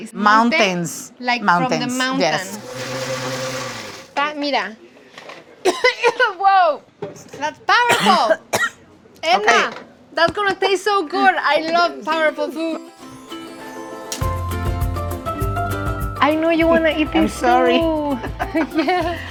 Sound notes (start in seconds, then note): 5.6 coughing; 7.8 coughs